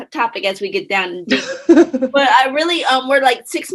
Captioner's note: laughs